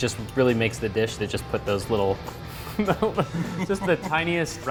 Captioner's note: chuckles